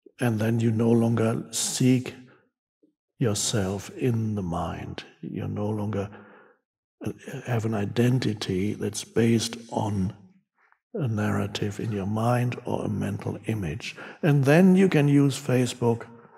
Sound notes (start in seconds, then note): none